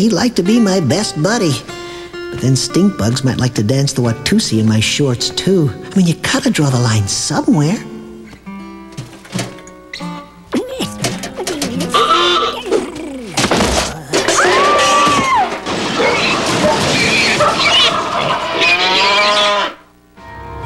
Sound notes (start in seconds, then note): 13.4 crash; 16.2 pigs squeal